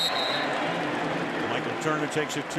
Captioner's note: whistle